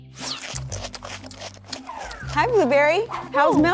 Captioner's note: beak crunching